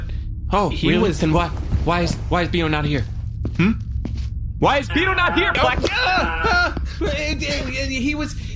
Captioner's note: shouting